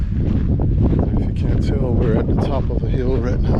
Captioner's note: wind blowing